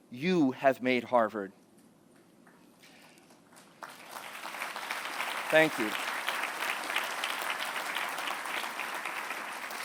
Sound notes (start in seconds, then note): 3.2 applause